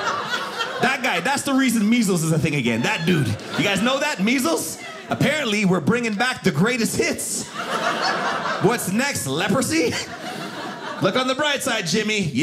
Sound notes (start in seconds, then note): 7.2 audience laughing